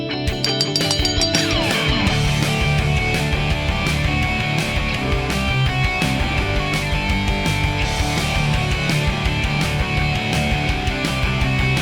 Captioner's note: bell ringing